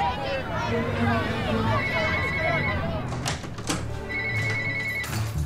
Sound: phone ringing

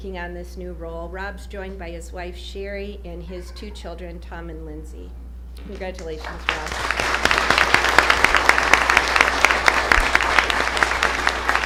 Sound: applause

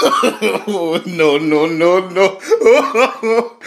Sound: laughing

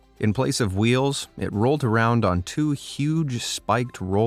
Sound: none

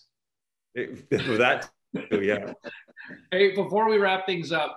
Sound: laughter

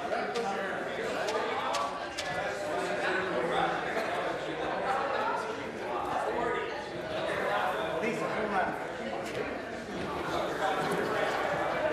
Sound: conversation din

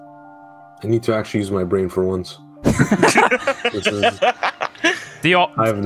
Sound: group laughter

